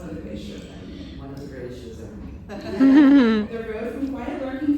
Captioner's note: laughter